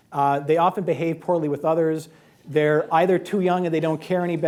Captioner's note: laughter